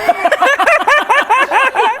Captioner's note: flattered giggles